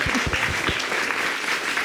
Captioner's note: audience clapping